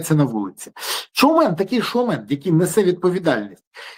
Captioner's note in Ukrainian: сопіння